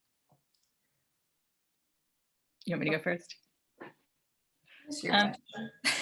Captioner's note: laughs